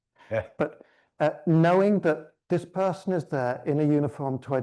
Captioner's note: chuckles